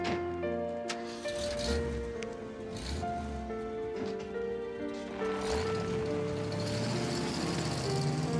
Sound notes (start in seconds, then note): 0.9 car engine revving